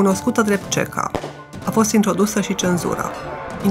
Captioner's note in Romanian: împușcătură